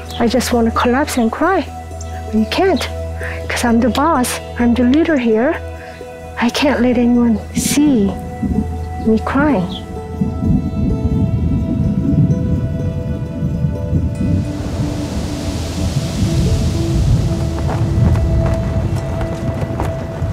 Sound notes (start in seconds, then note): 10.5 thunder rumbling; 15.0 wind rustling